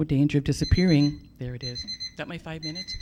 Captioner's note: buzzer